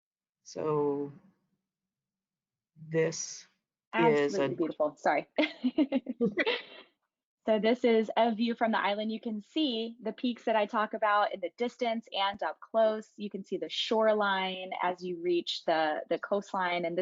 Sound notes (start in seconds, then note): 6.6 laughing